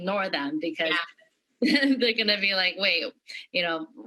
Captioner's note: laughter